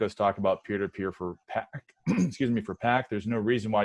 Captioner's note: clears throat